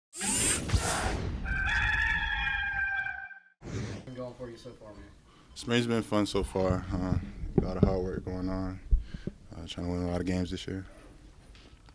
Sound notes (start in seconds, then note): 0.2 mechanical whooshing; 1.4 rooster crowing